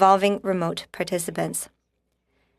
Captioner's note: speaking in french